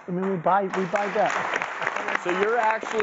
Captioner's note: clapping